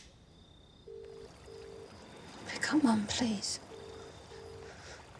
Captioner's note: ringing tone